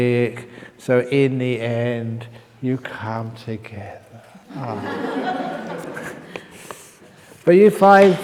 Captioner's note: laughter